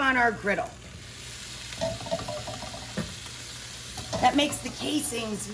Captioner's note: sizzling